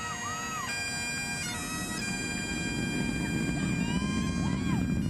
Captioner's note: cheering and piping continuing; rockets roaring